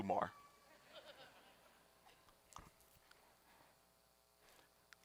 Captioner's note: audience laughing